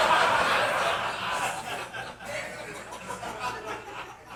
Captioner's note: audience laughing